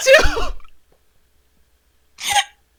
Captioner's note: sniffles